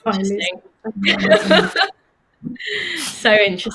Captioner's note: they laugh